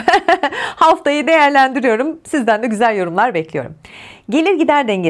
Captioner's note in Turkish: kahkaha